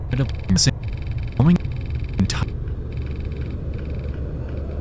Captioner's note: static crackling